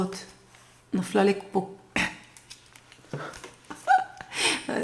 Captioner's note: gasp